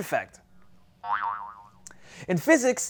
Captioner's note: spring boinging